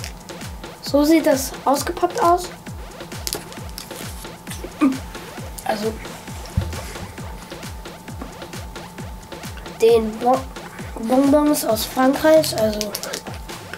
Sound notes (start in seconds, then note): 3.9 groan